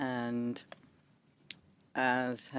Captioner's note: speaking French